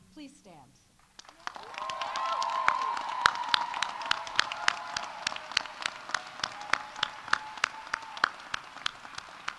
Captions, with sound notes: please stand. -(audience applauding) -(audience cheering)